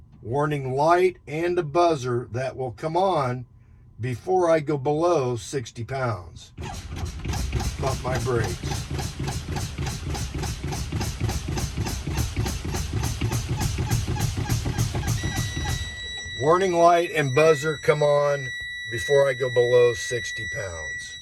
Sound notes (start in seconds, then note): 7.8 air hissing; 13.5 warning light beeping; 14.2 air hissing